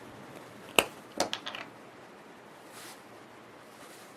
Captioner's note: cap popping open